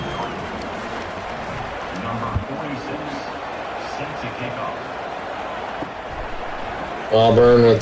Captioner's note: crowd Noises